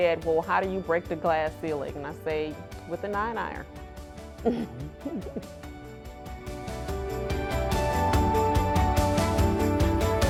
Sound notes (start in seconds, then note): 4.4 laughing; 7.3 evocative music